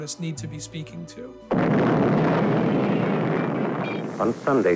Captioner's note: explosion roaring